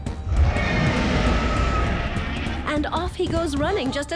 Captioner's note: roars